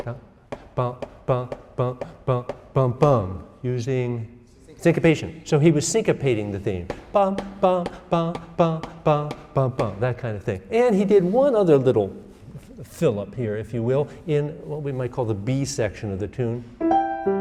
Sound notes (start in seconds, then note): 0.0 instructor vocalizing; 6.7 instructor vocalizing; 16.8 instructor playing piano